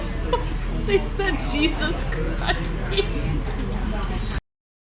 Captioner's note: laughing